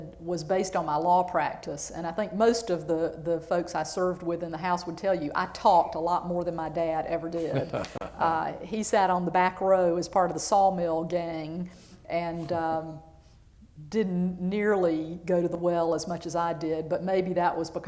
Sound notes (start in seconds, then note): 7.3 laughter